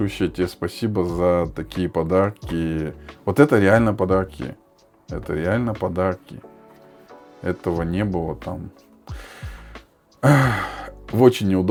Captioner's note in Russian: вздыхает